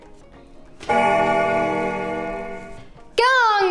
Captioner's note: bell ringing